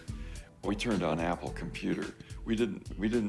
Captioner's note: chuckling